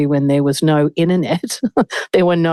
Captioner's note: laughs